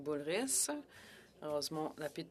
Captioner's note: speaking French